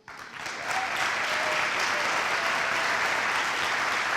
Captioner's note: audience applauds